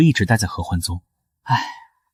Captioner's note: sigh